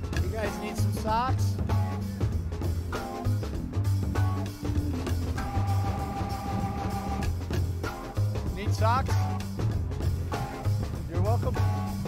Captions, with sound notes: You guys need some socks? (gentle music) (people chattering) Need socks? (gentle music) You're welcome.